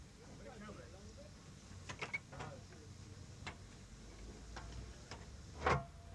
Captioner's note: indistinct chatter